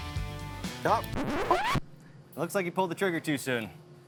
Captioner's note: record scratch